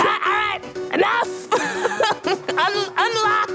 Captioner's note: laughing